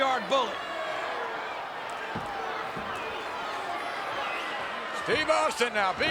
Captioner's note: applause